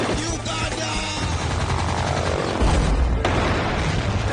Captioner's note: gunfire; helicopter humming; explosion